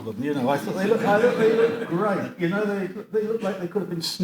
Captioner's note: audience laughs